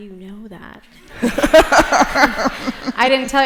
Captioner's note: laughter